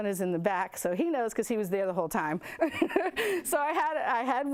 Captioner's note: laughs